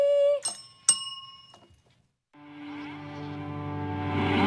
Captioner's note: bell